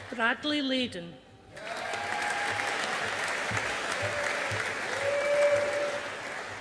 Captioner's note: audience applauding